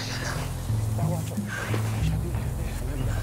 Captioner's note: Men Conversing In Native Language